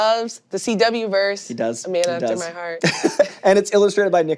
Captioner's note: laughs